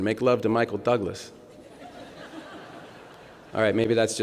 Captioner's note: laughter